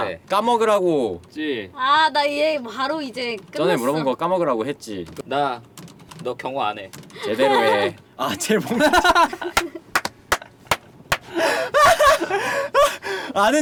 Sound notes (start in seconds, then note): 8.3 laughter